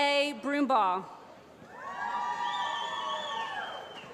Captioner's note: applause